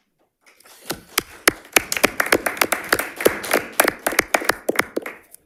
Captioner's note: audience applauds